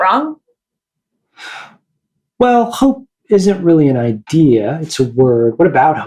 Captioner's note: inhales